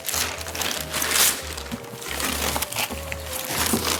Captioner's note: wrapper crinkling